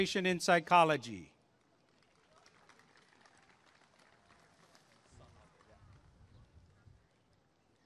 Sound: applause and cheering

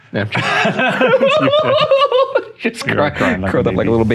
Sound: laughing; sobbing

